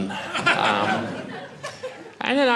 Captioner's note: audience laughing